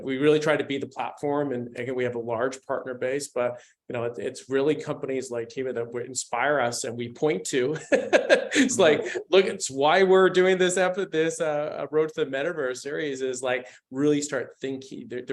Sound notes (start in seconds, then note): 7.8 laughs